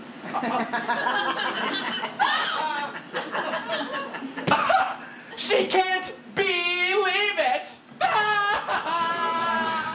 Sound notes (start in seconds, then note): 0.3 audience laughter